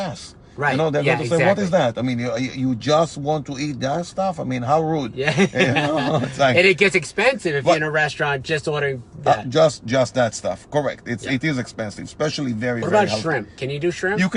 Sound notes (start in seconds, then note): 5.3 laughing